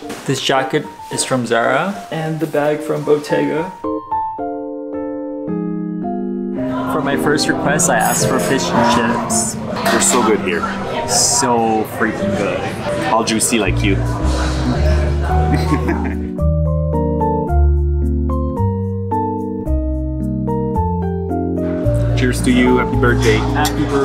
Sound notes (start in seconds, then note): 4.2 soft upbeat music; 14.6 giggles; 16.5 soft upbeat music